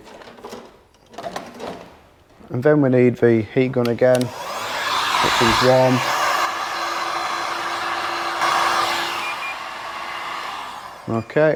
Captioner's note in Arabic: ضجيج مسدس الحرارة